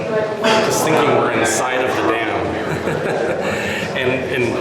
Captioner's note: laughing